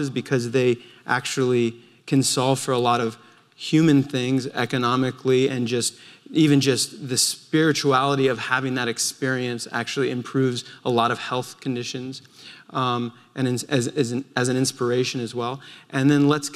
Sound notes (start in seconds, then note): none